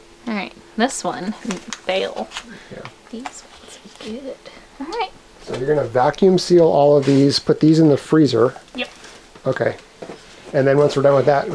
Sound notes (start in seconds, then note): none